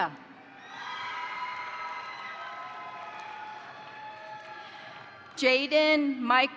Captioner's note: crowd cheering; crowd applauding